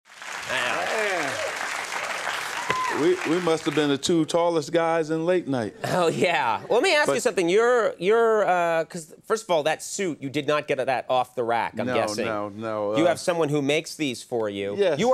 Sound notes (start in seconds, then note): 0.0 applause